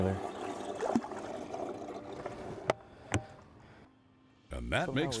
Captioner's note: water plopping